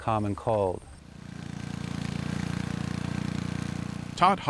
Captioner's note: motor buzzing